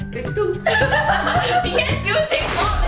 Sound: laughing

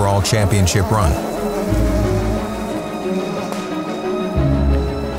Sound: engine revving

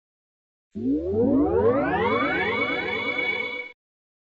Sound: electronic tones

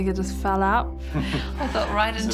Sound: chuckles

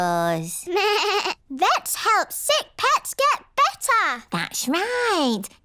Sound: bleats

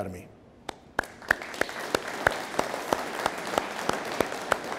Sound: audience applauding

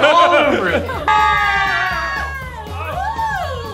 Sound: screaming

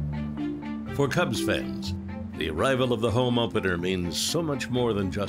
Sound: voiceover

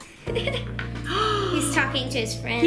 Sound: laughs; gasps

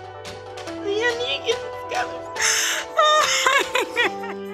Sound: sobbing

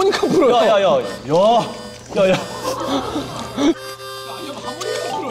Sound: the sweet sound of watermelon

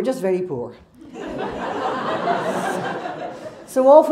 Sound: crowd laughs

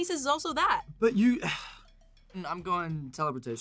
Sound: sighs

